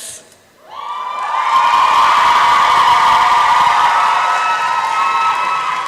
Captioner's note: applause and cheering